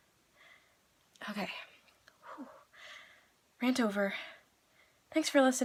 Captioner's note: sigh